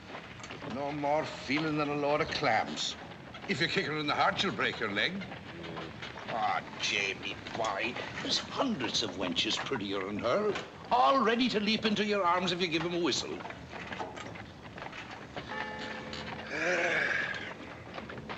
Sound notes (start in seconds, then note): 4.9 mutters; 15.4 bell tolling; 16.4 sighs